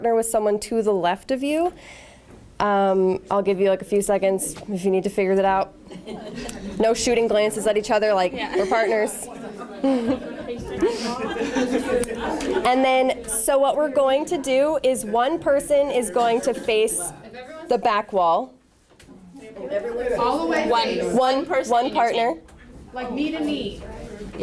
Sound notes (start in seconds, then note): 5.8 laughter; 9.7 laughter/chatter from audience members